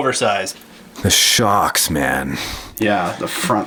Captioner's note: voiceover